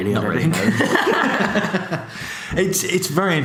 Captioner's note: laughs